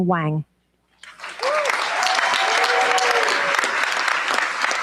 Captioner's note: cheers, applause